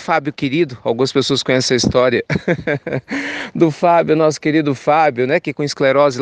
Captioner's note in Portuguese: risos